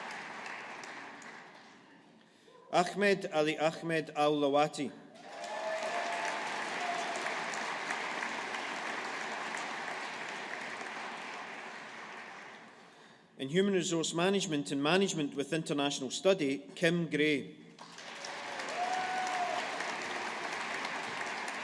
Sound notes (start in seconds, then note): 5.2 audience applauding; 17.8 audience applauding